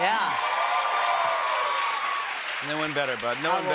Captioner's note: cheers and applause